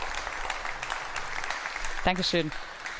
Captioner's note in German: Beifall